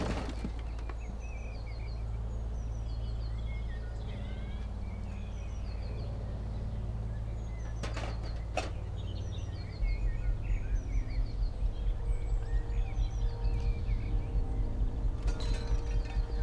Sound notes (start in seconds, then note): 0.0 light clattering; 0.1 tense music; 7.6 metal clattering; 10.5 suspenseful music